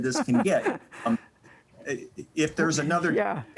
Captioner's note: laughing